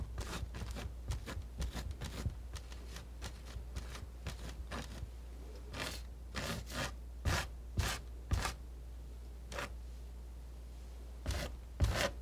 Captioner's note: scratching